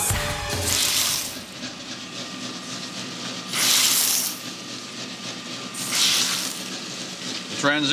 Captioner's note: shredder running